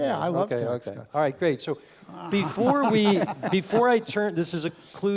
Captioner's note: laugh